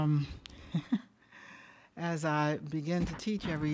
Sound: chuckles

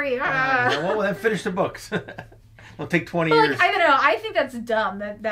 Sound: chuckles

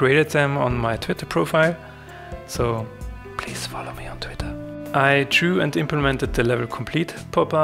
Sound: whispers

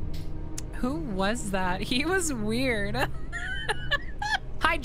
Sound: laughter

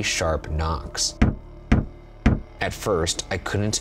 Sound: knuckles rapping

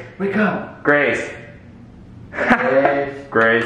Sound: laughs loudly; claps

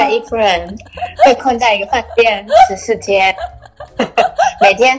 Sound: can't stop laughing

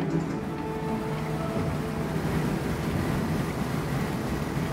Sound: loud whooshing

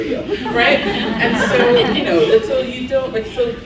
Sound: laughs

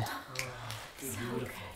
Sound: chatter

